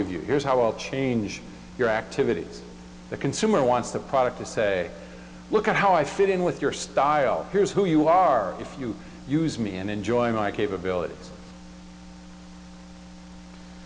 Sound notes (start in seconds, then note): none